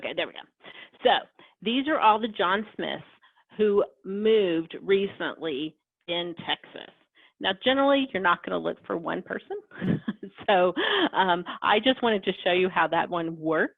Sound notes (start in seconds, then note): 9.8 laughs